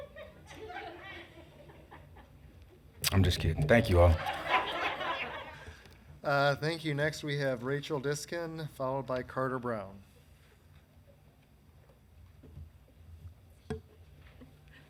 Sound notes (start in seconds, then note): 0.0 citizens laugh; 3.6 citizens laugh